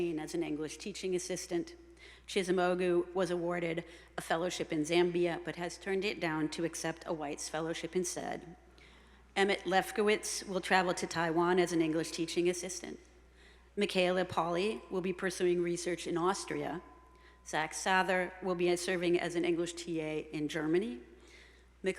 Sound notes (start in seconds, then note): none